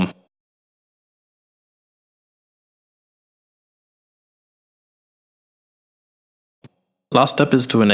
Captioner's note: silence